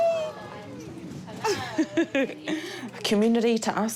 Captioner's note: chuckles